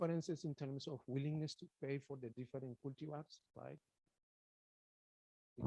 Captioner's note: speaks faintly